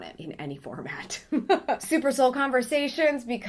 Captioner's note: laughing